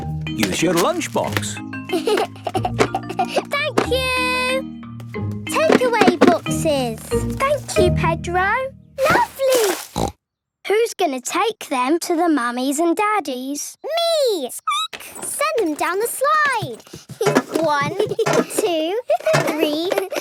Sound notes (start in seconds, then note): 1.9 giggling; 9.0 snorting; 14.7 squeaking; 17.9 laughter